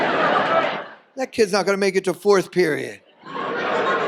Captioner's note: audience laughs